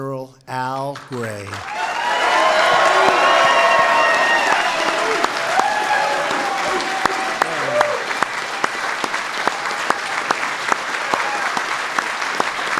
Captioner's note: applause